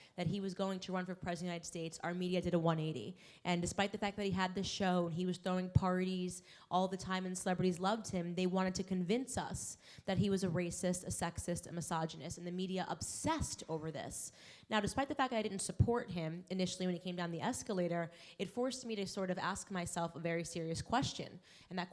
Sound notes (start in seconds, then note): none